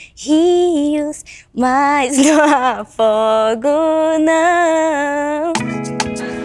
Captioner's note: laughs